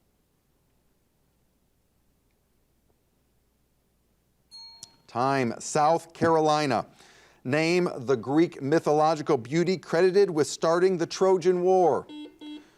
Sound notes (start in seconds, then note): 4.5 bell rings